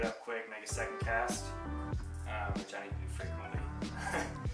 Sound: chuckles

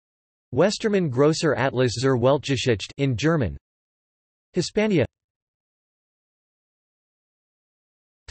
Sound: in German

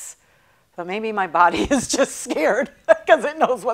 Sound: laughing

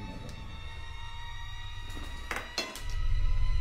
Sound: suspenseful sound getting louder

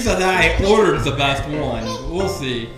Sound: voiceover

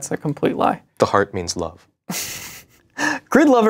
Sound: chuckles

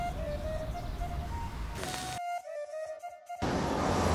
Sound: birds chirping; flute playing; traffic humming

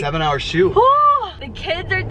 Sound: exclaims

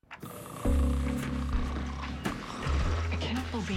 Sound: snoring

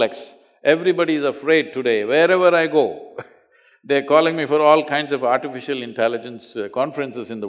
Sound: laughs

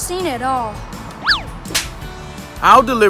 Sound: smacking

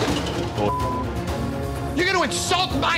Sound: beep

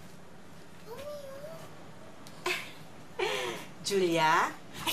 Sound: chuckles

